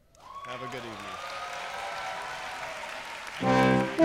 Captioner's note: cheers and applause